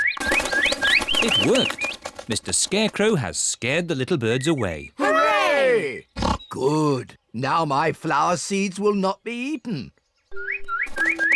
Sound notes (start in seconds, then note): 0.6 all tweeting; 6.1 oinks